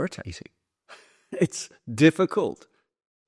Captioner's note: chuckles